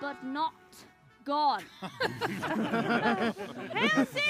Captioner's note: laughter